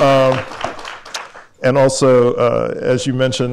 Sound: applause

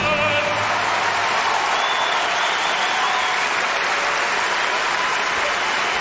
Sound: applause

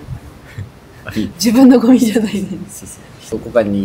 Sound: laughs

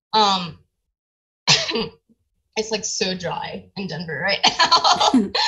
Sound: coughs

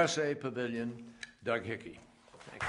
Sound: applause

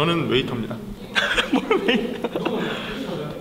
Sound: laughing at the sudden improv

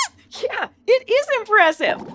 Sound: squeaks squeaks

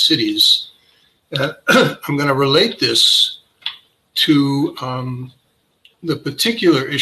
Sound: cough

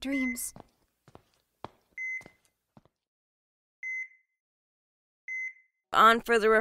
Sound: heart monitor machine beeps

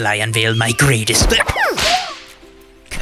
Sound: agh!

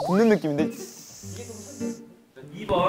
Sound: sizzling

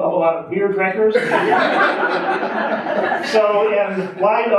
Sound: audience laughing

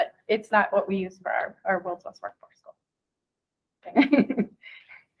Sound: laughing

